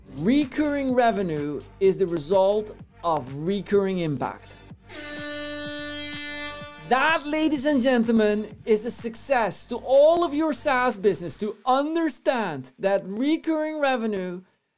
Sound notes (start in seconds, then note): 0.0 background upbeat music; 4.9 siren blaring